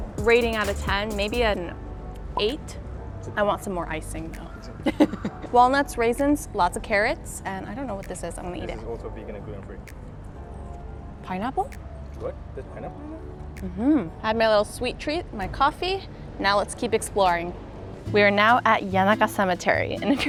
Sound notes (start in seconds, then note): 4.8 laughs